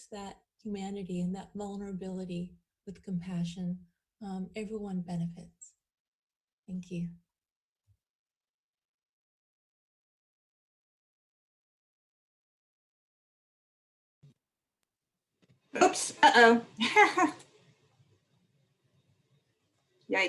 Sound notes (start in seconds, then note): 7.1 laughter